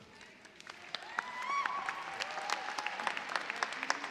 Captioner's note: cheers and applause